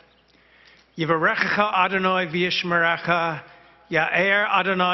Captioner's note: speaking Hebrew